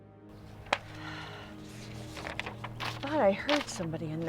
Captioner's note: Ramona sighs